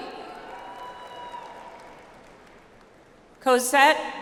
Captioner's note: audience applauds